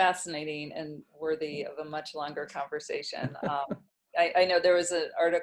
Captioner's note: laughs